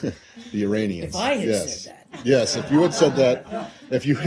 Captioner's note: laughter